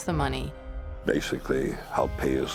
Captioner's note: people chatting